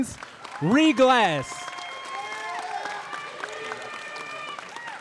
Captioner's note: audience applauding